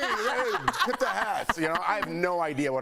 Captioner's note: laughter